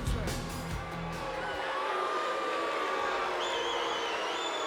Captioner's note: crowd boos